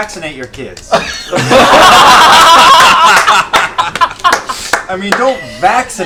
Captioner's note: laughter